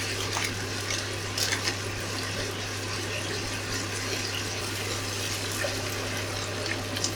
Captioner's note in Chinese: 很純粹的煮菜的環境音asmr